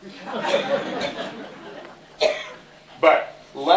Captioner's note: laughter